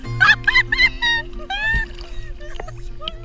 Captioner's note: laughing